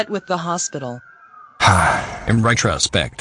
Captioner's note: sighs